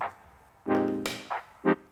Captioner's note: clapper snap